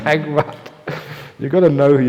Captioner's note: laughter